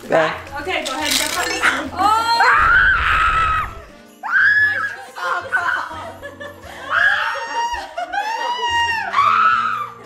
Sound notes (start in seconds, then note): 0.8 ice jingling; 2.3 child screaming; 8.4 child screaming